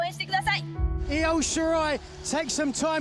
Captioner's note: speaking in foreign language